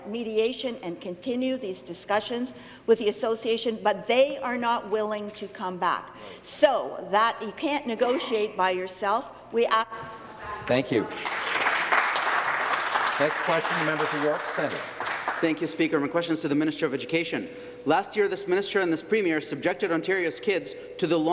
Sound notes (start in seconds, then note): 16.6 some Applause